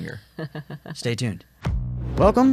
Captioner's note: chuckles